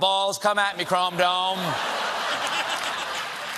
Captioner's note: laughter